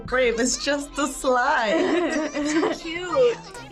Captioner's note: both laugh